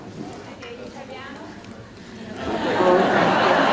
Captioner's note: gelach; rires